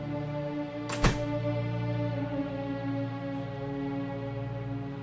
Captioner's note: door shutting